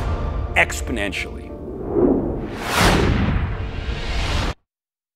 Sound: whooshing

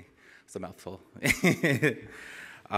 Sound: laugh

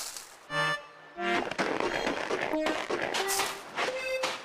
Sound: footsteps

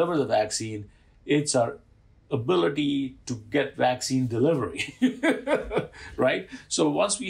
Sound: laughter

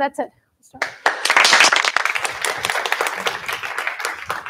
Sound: applause

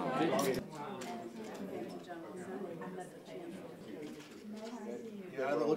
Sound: crowd

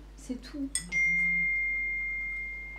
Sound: ringtone

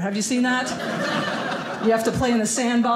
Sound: audience laughing

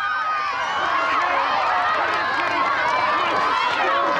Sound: crowd applauding

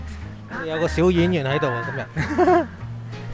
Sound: haha

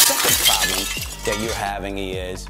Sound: glass crashing

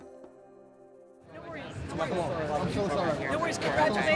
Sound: people chattering

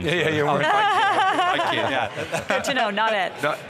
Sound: hosts laughing

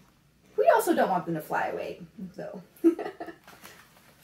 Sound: laughs

